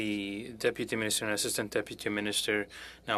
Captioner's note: speaking French